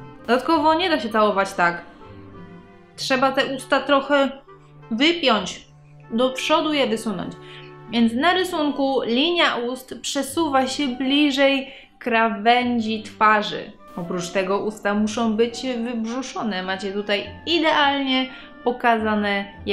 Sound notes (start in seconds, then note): none